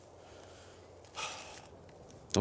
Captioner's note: exhales